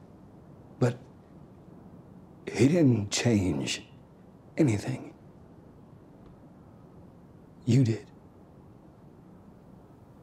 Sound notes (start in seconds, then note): none